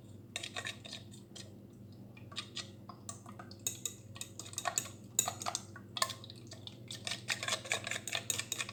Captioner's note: whisking asmr ensues